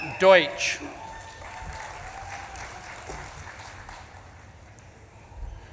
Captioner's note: audience claps and cheers